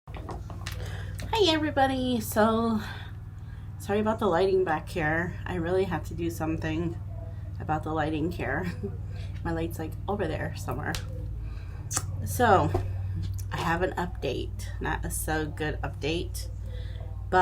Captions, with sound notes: - Hi, everybody. So, sorry about the lighting back here. I really have to do something about the lighting here. (chuckling) My light's like, over there somewhere. So, I have an update, not a so good update, but.